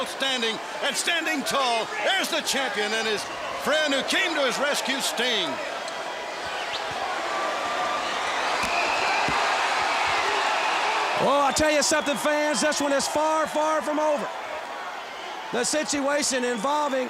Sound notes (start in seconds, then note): 5.9 crowd cheering